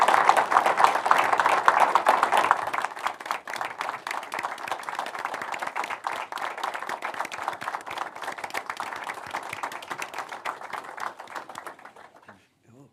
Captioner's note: applause